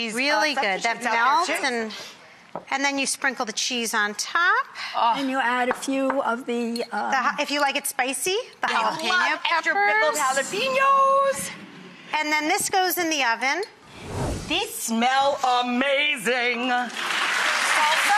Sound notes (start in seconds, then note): 13.8 whooshing; 16.8 audience claps